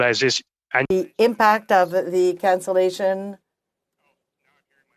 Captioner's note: speaking French